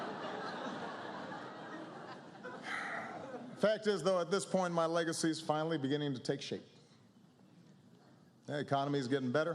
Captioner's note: laughter